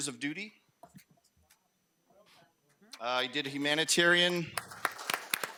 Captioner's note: audience clapping